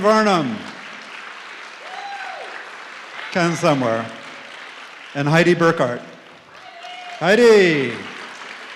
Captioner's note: applause